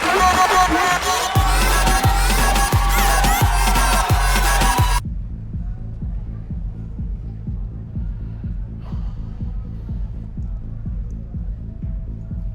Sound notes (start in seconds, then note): 1.6 crowd cheering